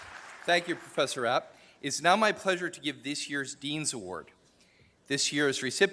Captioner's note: applause